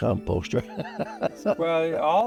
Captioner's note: chuckles